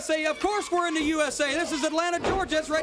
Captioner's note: crowd cheering